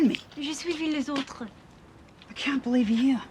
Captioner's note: speaking in foreign language